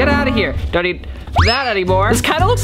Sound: whistle

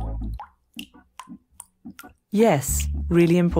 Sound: drips

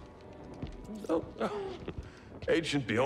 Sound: chuckle

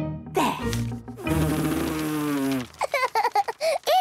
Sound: blows

